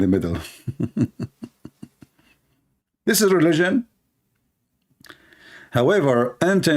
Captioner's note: Ketawa